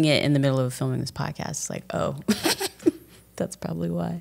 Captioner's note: laughs